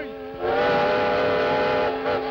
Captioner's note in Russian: звук паровозного гудка